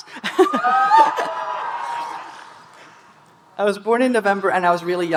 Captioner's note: speaker laughing; audience cheering